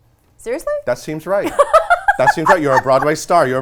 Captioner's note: laughs